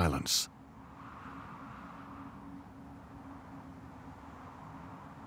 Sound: wind howls

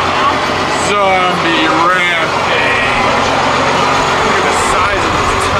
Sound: truck engine running

